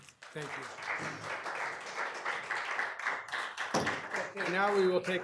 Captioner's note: attendees clapping; gavel pounding